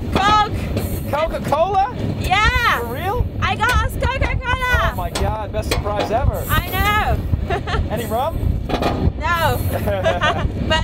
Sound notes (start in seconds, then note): 9.6 laughs